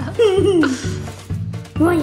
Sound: woman laughing; laughing

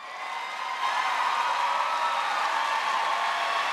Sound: audience cheering

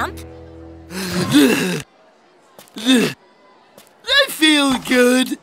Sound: grunting

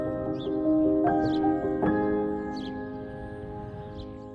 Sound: birds chirping

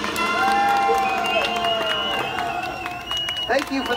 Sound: fanfare music; audience clap

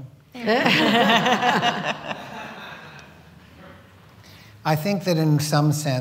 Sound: laughter

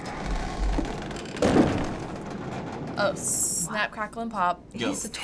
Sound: door creaking

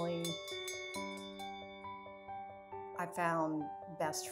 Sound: bell rings

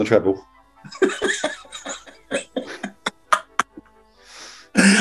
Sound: giggling

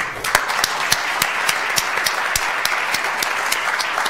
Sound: audience applauds

